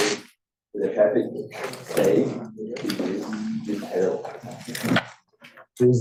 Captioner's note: student talking faintly